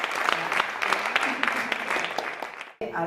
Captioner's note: Aplaudiments